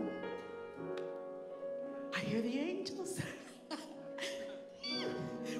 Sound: giggles

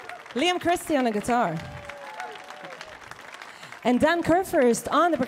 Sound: audience cheering; audience clapping

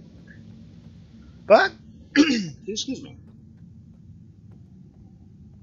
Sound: coughs

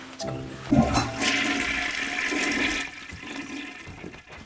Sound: toilet flushes

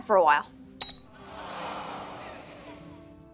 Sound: groaning

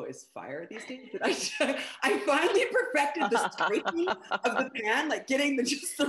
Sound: laughs

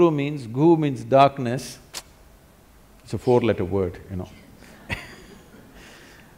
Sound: laughs

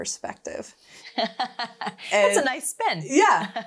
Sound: laughing

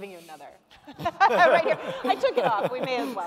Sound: both laughing

